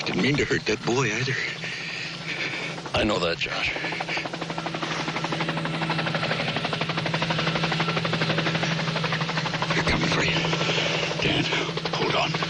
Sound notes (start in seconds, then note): 3.1 helicopter approaching; 6.5 helicopter sound